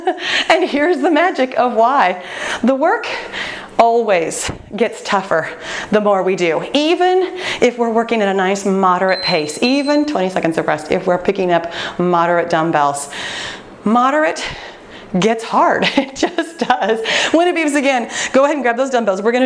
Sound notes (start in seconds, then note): 9.0 timer beeping; 16.5 laughs